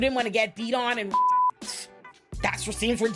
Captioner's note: beep